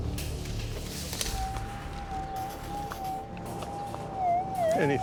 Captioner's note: metal detector whirring